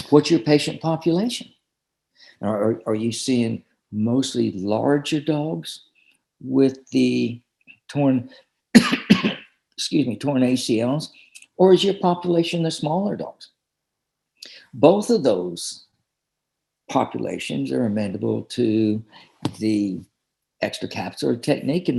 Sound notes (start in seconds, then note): 8.7 coughs